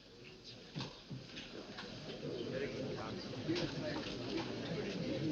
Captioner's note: people chattering